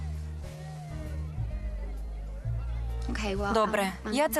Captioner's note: sighs